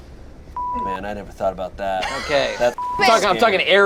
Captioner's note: beep